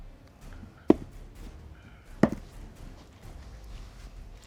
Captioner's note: dice thud